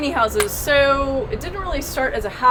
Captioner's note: claps